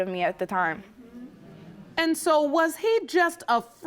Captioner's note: audience agreeing